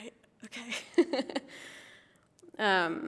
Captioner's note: laughs